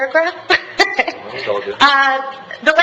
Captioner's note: laughing